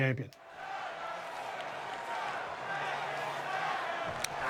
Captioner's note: crowd cheering